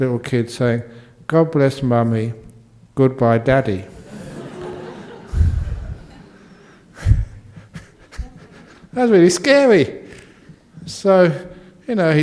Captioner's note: laughter